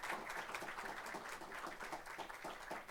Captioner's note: applause